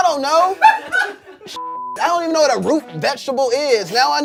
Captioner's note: beep